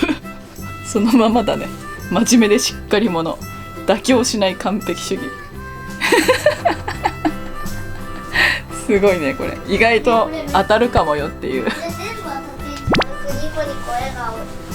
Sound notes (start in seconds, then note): 5.9 laughing